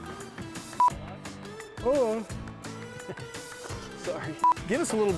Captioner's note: beep; yawn; beep